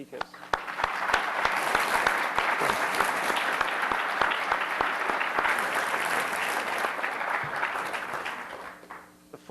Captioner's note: applause